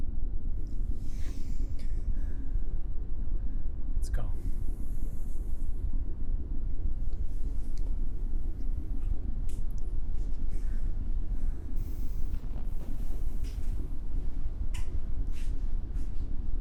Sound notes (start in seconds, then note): none